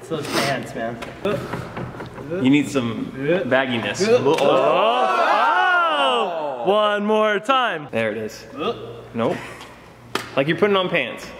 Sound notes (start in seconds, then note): 4.0 surprised sounds